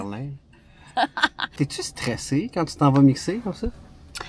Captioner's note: laughs